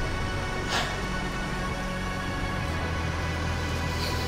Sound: sighs

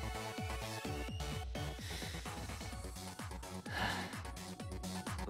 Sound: breathes in, and out

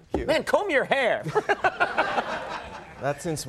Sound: Conan laughing; audience laughing

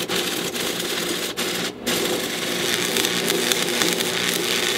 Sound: welding sounds

